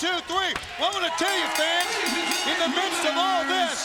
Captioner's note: bell dings